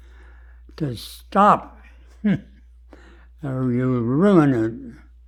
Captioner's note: laughs